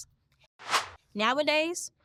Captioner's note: air whooshes